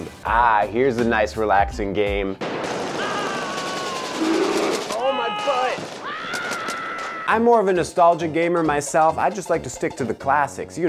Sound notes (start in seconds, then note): 2.4 rapid gunfire, bombs exploding, men screaming